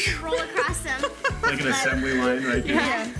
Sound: laughs

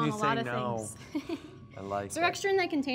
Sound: laughs

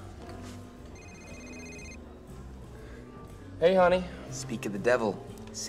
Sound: cell phone ringing

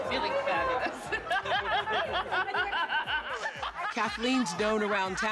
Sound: laughing

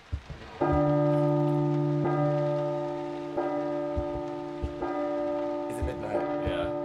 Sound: clock chiming

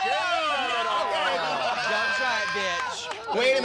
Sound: shouting

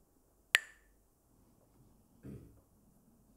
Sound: Mooji clacks the sticks

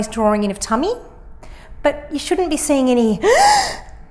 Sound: inhales loudly

